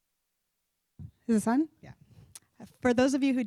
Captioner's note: voiceover